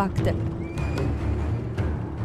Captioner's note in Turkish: At nalı sesi; At kişneme sesi